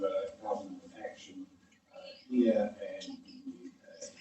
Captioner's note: faintly speaking